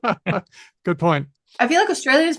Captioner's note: laughs